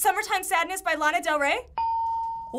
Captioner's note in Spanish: ding